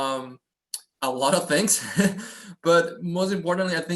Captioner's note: chuckles